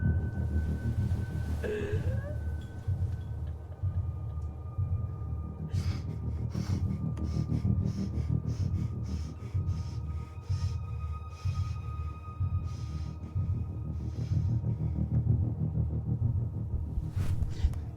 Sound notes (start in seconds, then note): 5.7 catches her breath